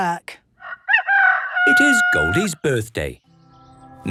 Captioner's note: rooster crowing